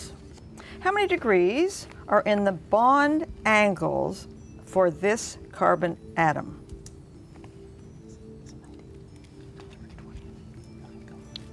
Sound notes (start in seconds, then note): 7.6 whispering